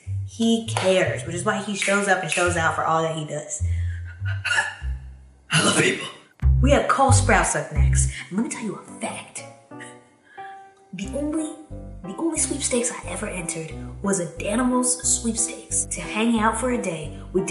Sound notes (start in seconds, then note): 3.7 exhales sharply